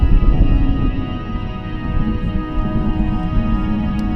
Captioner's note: wind howling